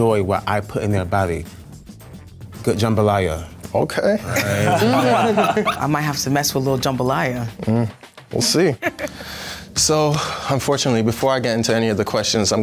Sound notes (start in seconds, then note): 4.3 all laugh; 8.8 chuckles